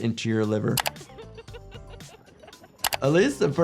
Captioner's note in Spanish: Un miembro de la multitud se ríe